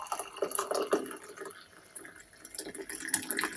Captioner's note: water pouring